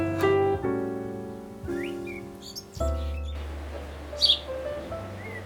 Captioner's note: birds chirping